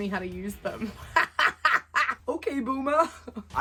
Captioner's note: laughs